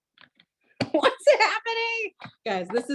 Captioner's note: laughs